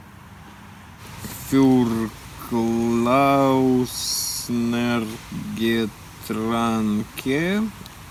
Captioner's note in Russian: читает что-то непонятное на немецком